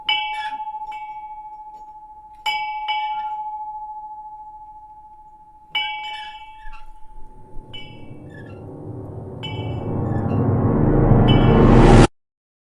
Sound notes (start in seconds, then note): 5.7 bell clanging continues; 9.2 eerie dramatic music